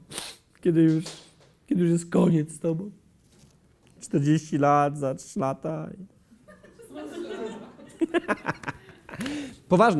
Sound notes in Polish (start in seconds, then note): 6.4 śmiech